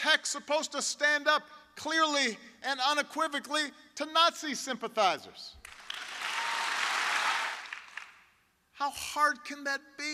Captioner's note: cheers, applause